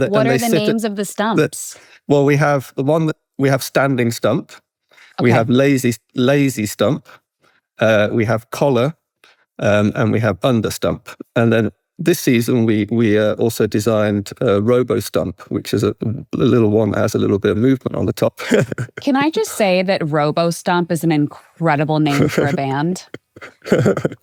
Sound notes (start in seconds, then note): 18.4 chuckles